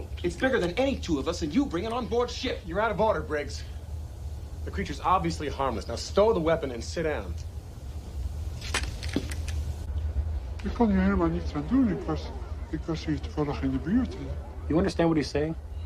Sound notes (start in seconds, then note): 9.8 speaking other language